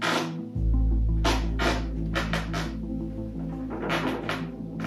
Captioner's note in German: Knarzgeräusche